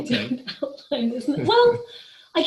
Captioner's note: laughing